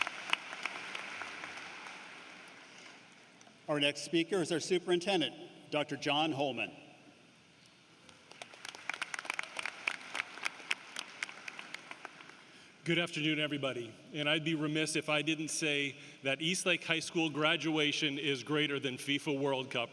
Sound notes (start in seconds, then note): 1.9 applause